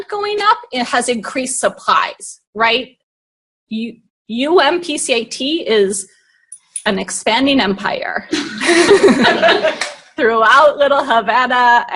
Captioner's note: laughing